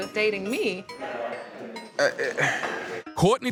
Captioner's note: stammers